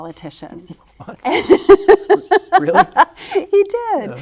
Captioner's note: laughing